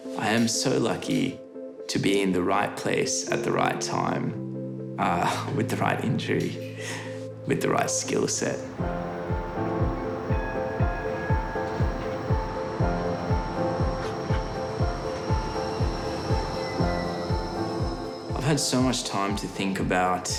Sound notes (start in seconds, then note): 10.5 tram bells ding; 12.5 uplifting music